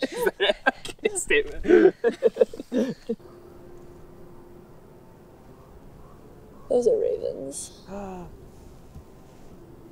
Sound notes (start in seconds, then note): 0.0 laughing; 0.0 uneasy laughing; 4.1 distant cawing